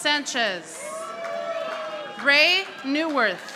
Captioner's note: audience applauding